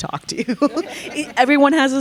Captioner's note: all chuckling